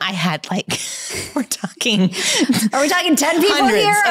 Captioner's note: chuckles